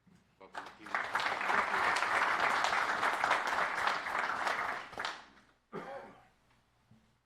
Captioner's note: applpause